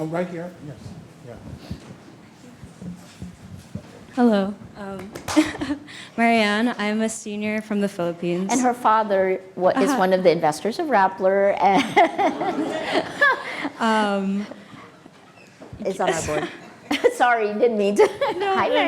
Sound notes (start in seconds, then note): 11.8 everybody laughing